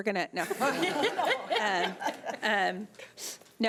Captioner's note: laughing